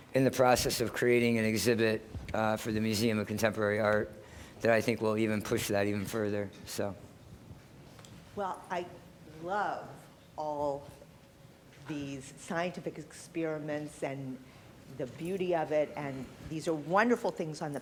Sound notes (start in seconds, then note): none